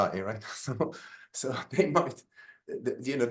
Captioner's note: laughs